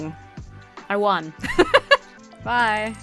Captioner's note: laughs